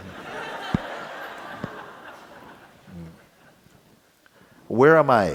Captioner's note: laughter